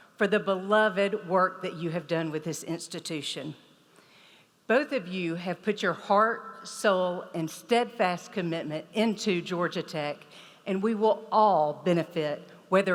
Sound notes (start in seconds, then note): none